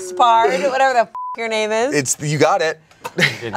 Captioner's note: beep